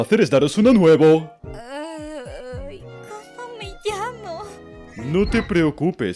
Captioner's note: groaning